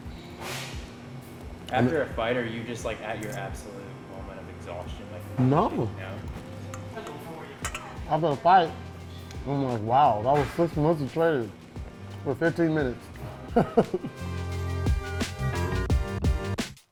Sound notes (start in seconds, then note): 13.4 laughs; 14.3 rnB music